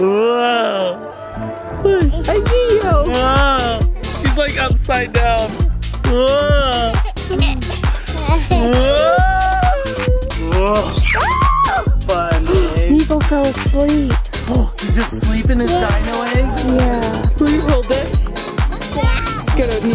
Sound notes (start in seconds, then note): 6.6 giggling; 13.6 gasps